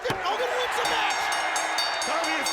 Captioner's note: bell dings